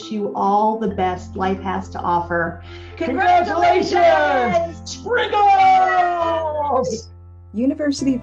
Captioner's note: cheering